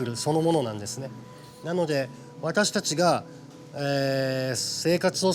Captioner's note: continues speaking Japanese